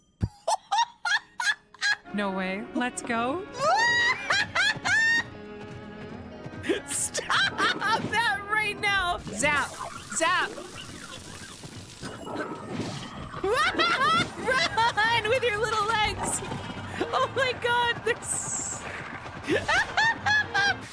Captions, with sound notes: [Excited Laughter] No way... Let’s go! [Squealing] Stop that right now! Zap. Zap! Wah-ha-ha! Run! With your little legs! Oh, my God they’re... [Laughter]